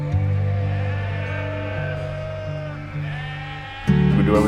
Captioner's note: sheep bleat